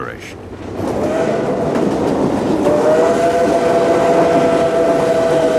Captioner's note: train whistle blows